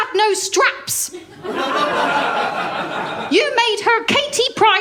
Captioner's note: laughter